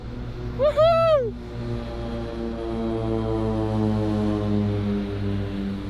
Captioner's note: plane engine noise